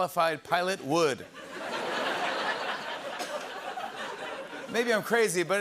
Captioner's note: laughter